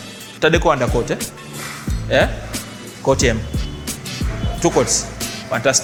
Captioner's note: speaks in foreign language